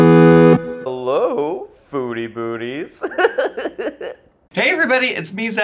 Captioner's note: chiptune music; laughs